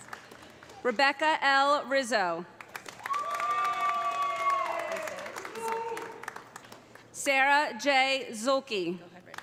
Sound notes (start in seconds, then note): 2.6 audience applauding; 3.0 audience cheering